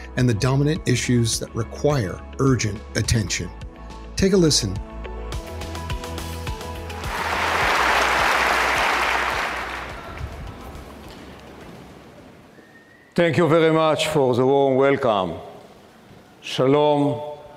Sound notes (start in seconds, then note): 5.2 audience clapping; 5.2 lively music